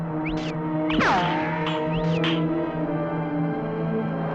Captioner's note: ricochets